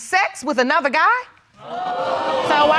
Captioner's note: audience gasping